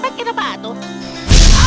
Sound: boom

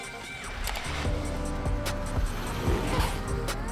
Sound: key click

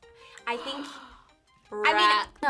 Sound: gasps

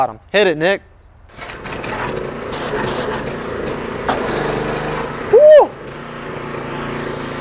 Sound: machine whirring

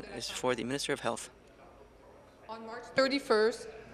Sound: speaking in French

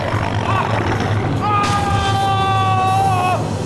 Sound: screams

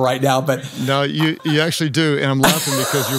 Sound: laughs

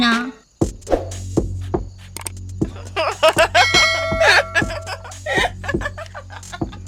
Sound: loud laughter

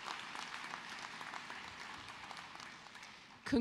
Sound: cheers and applause

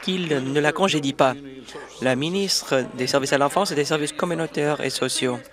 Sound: applause

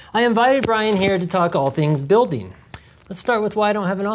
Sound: none

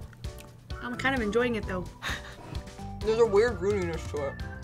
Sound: laughs

